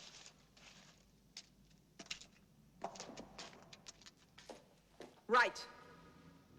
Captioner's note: rustling; footsteps